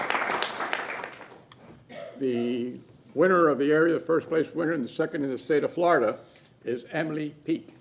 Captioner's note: applause